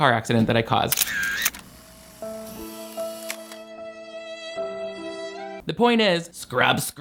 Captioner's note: camera shutter flashes; eerie music